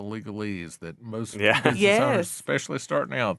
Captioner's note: laughing